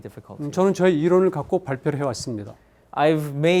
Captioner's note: speaking in Korean